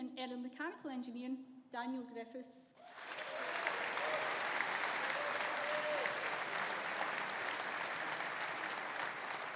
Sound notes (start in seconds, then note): 2.8 audience applauding; 2.9 audience cheering